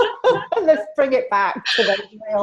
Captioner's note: women laugh